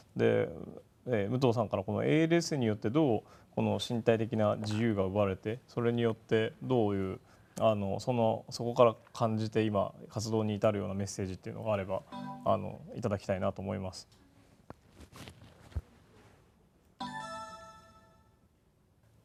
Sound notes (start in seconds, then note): 17.0 electronic startup sound